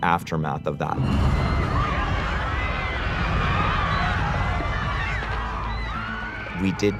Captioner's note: commotion